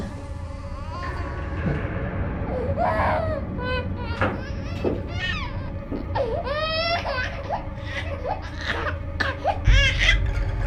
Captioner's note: baby crying